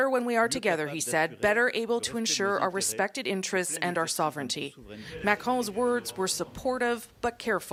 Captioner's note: speaking French